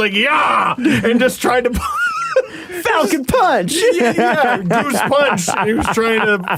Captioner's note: wheezing laughter; laughter